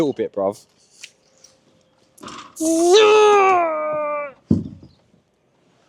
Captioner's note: groans